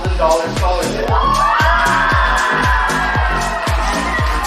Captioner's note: cheering, applause